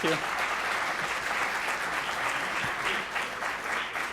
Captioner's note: clapping